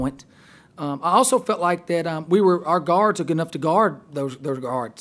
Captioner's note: voiceover